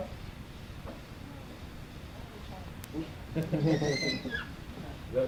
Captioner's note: laughter